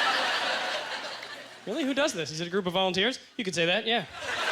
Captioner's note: audience laughter